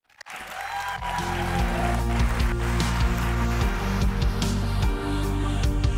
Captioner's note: audience applauding; upbeat music